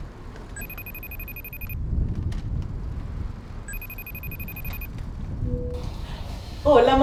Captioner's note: ringtone